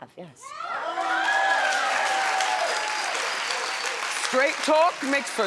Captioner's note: audience cheers; audience applauds